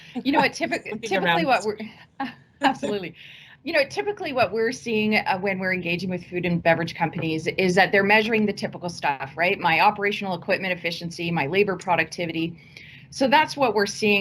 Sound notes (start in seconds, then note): 1.4 speaking faintly